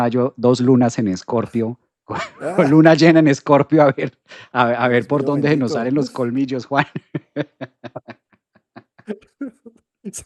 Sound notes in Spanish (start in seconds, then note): 6.7 risas